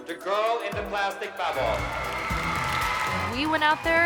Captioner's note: cheering